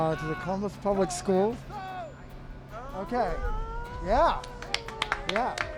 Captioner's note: applause